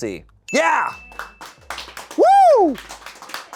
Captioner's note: bell dings; people applaud